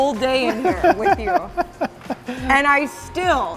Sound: laughing

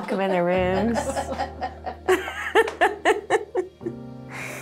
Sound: laughs

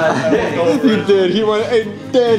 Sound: laughing

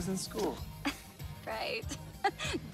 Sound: giggles; chuckles

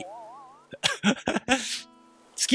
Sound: giggle

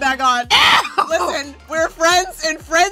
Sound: laughs

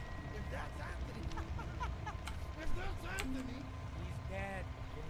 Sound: laughing

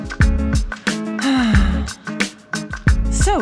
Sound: sigh

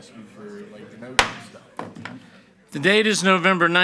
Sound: gavel bangs

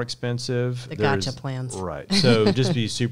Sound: chuckles

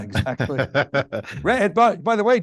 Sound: chuckling

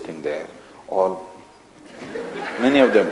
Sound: laughter

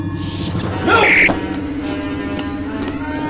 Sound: phaser fire

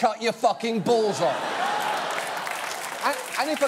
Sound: audience laughing

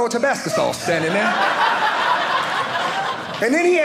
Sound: audience laughing

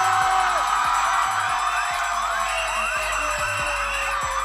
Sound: whistle blowing

